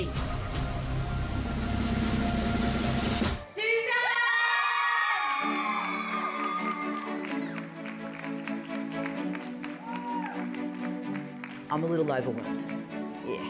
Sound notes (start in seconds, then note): 0.0 tense music; 4.0 everyone cheering; 5.2 light music